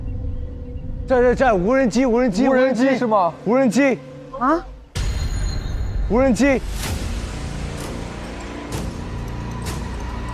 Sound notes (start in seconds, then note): 5.1 drone